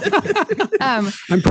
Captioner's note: laughing